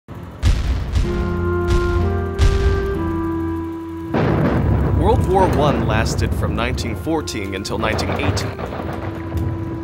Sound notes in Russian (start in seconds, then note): 0.2 Играет музыка, стреляют пушки